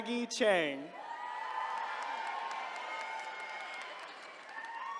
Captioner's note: attendees cheering